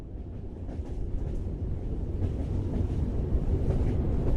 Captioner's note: train car rumbles